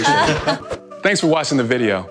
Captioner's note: everyone laughs